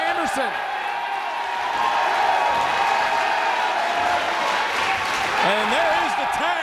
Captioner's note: applause